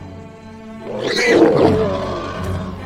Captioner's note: growls